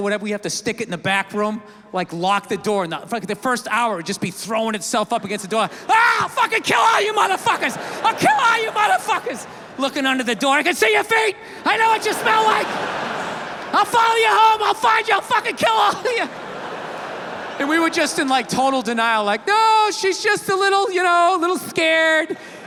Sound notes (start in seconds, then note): 6.6 screams; 13.0 audience laughs; 16.9 laughs